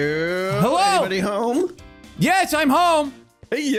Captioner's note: shouting